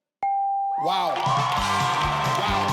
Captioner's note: bell chimes